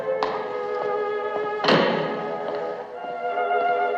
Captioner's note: door Closes